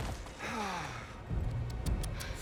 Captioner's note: sigh